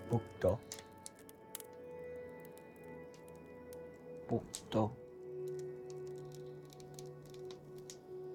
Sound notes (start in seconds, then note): 2.8 speaks in Mi'kmaw; 5.0 speaks in Mi'kmaw; 7.2 fire crackling